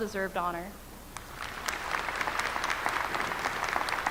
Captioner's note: applause